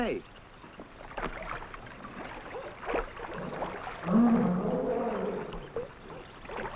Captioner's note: water sloshing; animals groaning